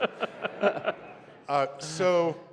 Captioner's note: laughter